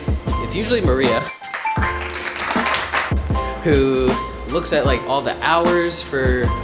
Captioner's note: clapping